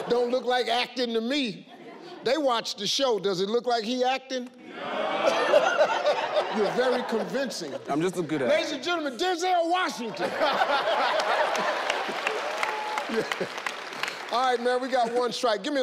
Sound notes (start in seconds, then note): 10.2 everyone laughs